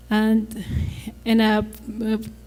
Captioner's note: stutters